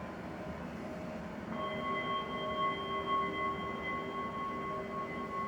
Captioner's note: bells ringing